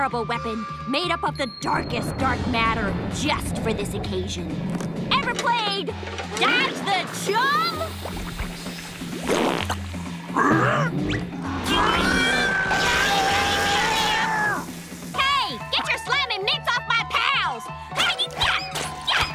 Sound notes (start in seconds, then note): 10.3 grunting; 10.3 groaning; 12.4 growling